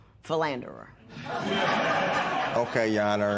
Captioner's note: laughter